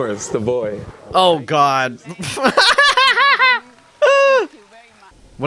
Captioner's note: laughs